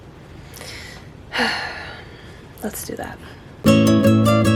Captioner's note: sigh